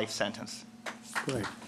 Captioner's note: applause